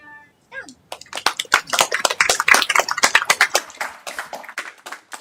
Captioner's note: applause